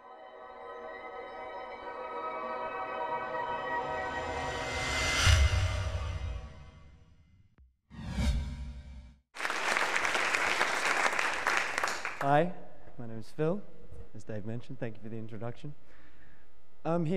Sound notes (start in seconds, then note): 0.1 dramatic music; 9.3 audience clapping